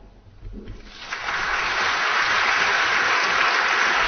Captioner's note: applause